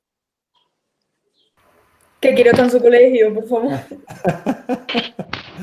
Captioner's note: laughter